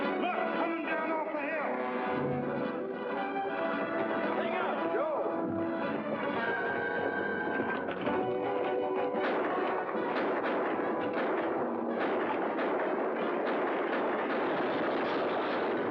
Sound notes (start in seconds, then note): 2.2 dramatic music; 5.5 dramatic music; 9.2 gunfire; 14.3 crash; 15.6 dramatic music